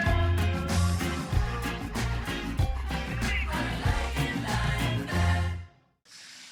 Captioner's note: office noises